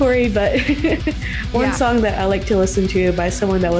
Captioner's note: laughs